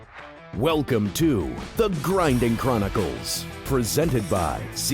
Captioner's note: voiceover